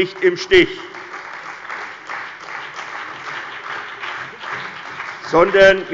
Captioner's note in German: Beifall bei der CDU und dem BÜNDNIS 90/DIE GRÜNEN